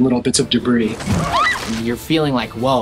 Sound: screaming

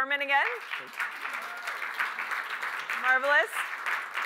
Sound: applause

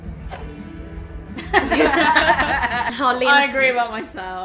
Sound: all laugh

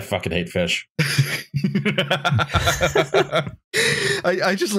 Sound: laughter

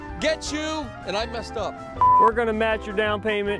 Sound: electronic beep

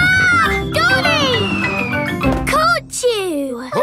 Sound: screams

